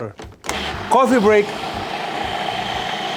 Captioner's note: blender whirring